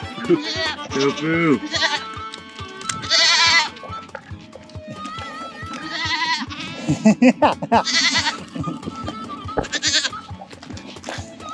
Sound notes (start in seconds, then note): 1.0 goat bleats; 1.8 goats bleat; 6.8 laughter; 8.1 goat bleats